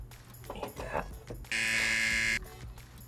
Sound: buzzer

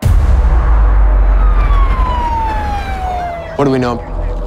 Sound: intense music; police sirens

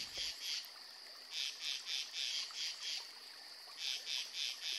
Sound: insects buzz

